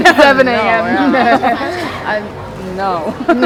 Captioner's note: laughs